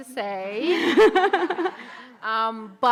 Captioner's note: audience laughing